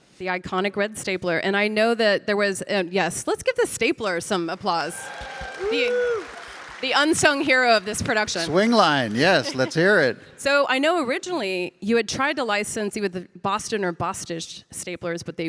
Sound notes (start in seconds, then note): 4.7 audience applauding; 4.7 audience cheering